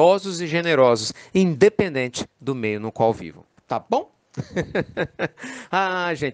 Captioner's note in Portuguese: Risos